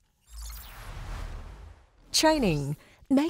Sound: screen whooshing

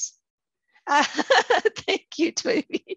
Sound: laughing

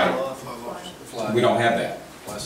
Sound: murmurs

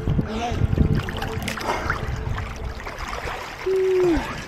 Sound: water splashing

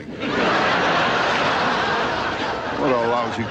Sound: audience laughing

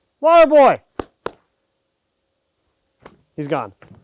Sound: claps

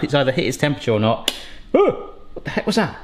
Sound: gadget clicking

